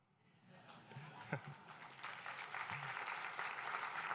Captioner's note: applause